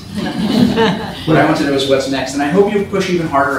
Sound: laughter

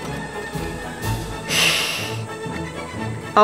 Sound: hiss

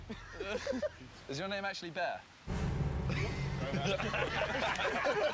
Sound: laughter

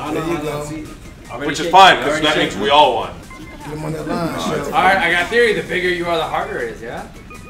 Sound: laugh

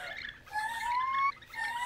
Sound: higher-pitched

